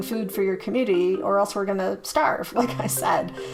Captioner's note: chuckles